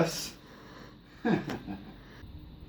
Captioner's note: laughs